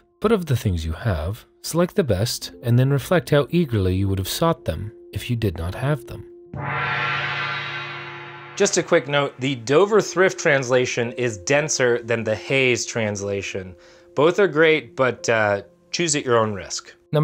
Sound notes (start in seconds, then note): 6.5 gong rings